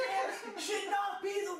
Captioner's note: laughing